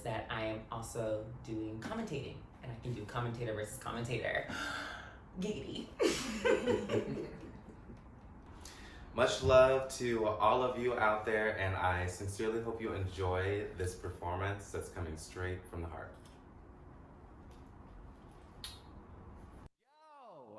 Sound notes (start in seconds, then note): 4.5 inhales; 6.0 group laughs; 18.6 kisses